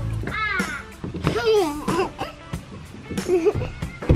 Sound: laughing

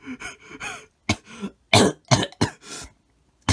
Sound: heavy coughing

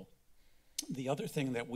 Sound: clicks tongue

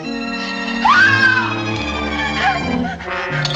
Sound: screams

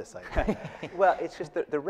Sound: laughing

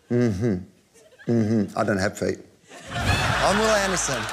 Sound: laughter

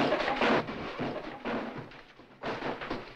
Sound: objects clattering

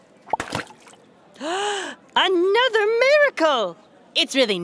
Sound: gasping

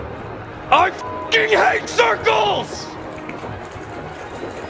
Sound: beep

